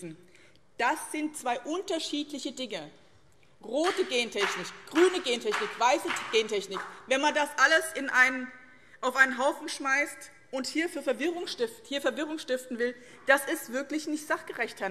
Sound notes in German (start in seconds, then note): 3.8 Beifall BÜNDNIS 90/DIE GRÜNEN